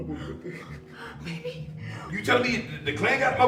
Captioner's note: crying